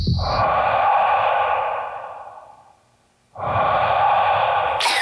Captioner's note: lifeguard breathing